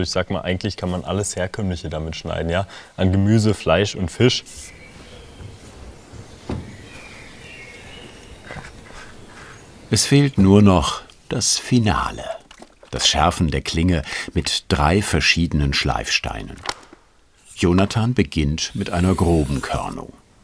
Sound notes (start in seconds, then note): 5.3 birds chirping